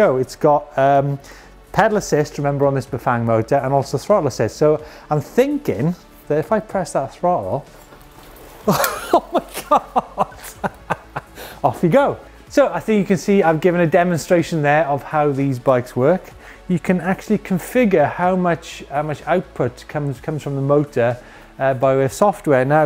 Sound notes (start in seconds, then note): 8.6 laughs